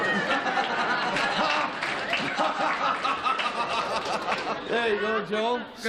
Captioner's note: laughter